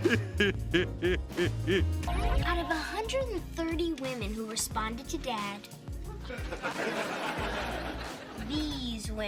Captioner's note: Laugh track plays as TJ glares at his brother